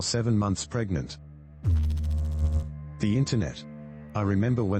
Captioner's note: electrical noise